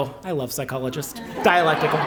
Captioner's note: laughter